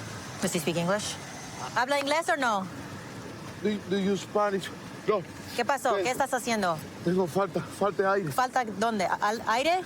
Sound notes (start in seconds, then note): 5.2 speaking spanish